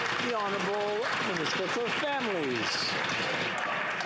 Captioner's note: some Applause